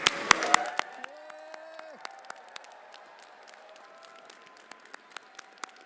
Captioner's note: everyone applauding and cheering